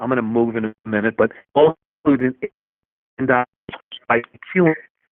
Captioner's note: faintly speaking